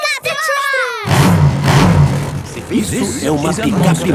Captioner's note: engines revving